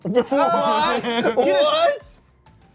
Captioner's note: cast exclaims